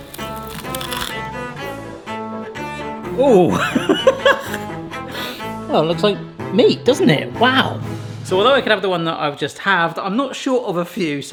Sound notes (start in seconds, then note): 0.0 whimsical music; 0.0 crust crunching; 3.1 laughs